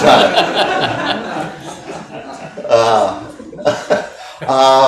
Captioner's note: audience laughing